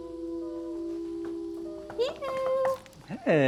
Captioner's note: knuckles rapping